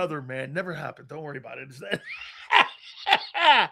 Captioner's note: laughing